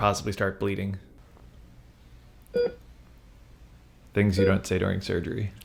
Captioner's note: medical device beeping